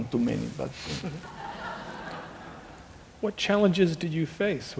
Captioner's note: laughing